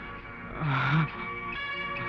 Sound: groans

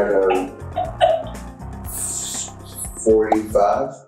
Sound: laughs

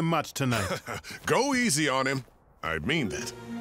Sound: chuckling

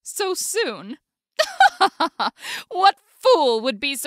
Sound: laughs

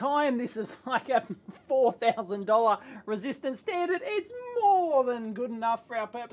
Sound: laugh

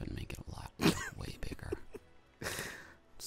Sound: snorting

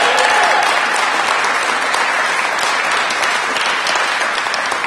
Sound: cheers and applause

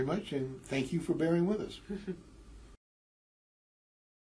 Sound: laugh

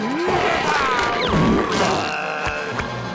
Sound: groaning

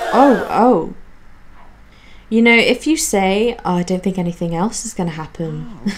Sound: crowd gasps; laughs

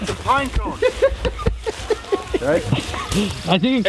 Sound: laughing

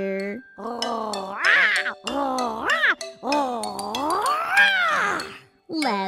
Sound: snarl snarl snarl snarl

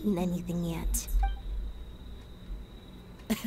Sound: crickets chirping; laughing

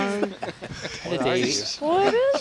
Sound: laughing

